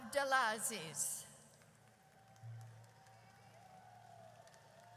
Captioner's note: audience cheers